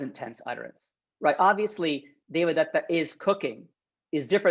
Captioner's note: speaking Sanskrit